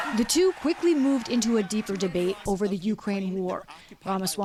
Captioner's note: cheering